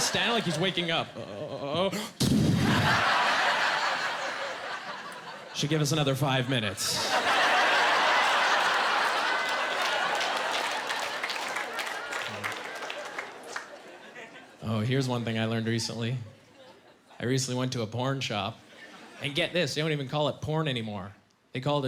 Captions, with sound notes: Like, "He's waking up! Uh-oh!" (Making punching sound effect) "Should give us another five minutes." (Laughing, applause) Oh, here's one thing I learned recently. I recently went to a porn shop. And get this, they don't even call it porn anymore.